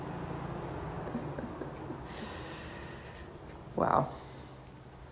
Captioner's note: chuckling